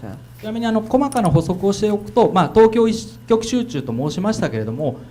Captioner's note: speaking foreign language